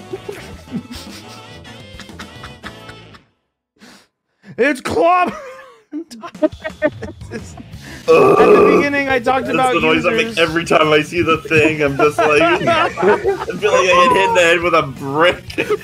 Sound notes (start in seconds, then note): 0.0 laughs; 6.0 laughs; 8.0 erarg groans; 11.1 laughter